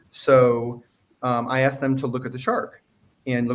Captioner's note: none